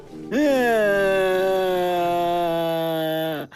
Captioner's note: weeping